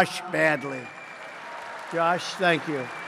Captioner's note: applause